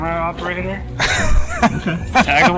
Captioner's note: group laughs